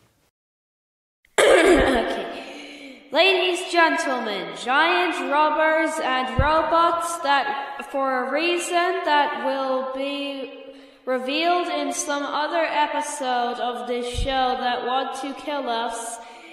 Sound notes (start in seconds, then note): 1.3 coughing